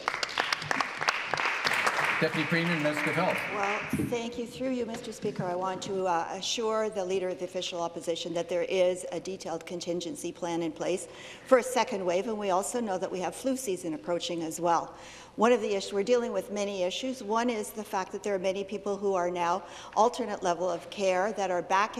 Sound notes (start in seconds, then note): 4.2 applause